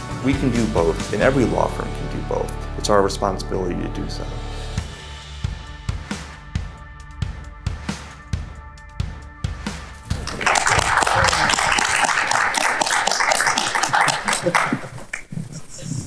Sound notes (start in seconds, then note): 5.9 inspiring music; 10.1 audience clapping